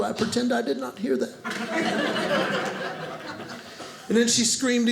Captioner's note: audience laughing